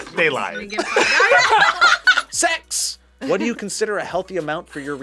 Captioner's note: laughs